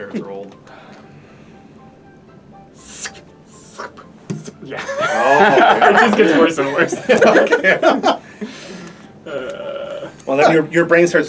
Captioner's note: similar slurping noise